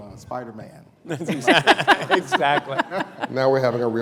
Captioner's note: laughter